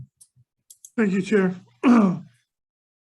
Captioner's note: clears throat